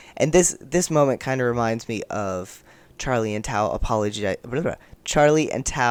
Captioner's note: gets tongue-tied